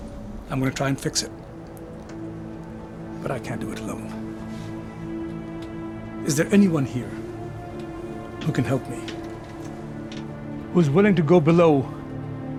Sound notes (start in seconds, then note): none